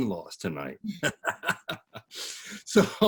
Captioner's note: all laughing